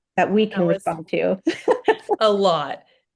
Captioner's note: laughs